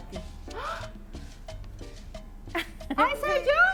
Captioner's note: gasps